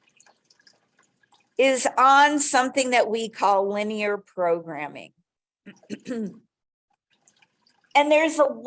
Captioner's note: clears throat